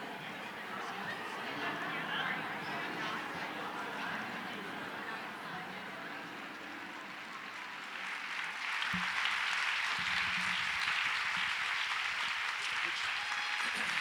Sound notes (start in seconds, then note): 8.9 audience applauds